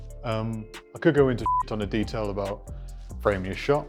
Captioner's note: beep